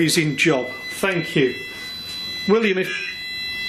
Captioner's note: machine beeping